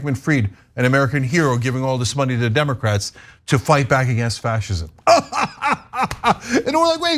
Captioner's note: laugh